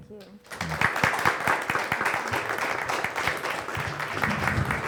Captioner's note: audience applauds